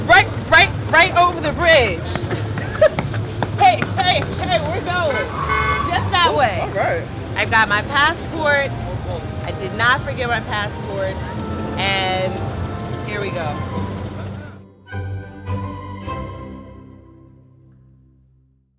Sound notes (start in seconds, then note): 3.7 feet stomping